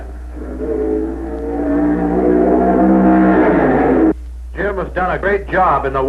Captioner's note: engine roaring